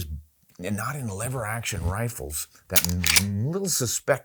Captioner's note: gun cocks